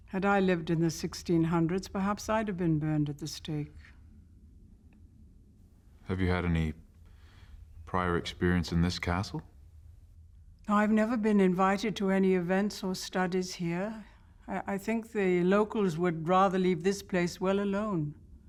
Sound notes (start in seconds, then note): none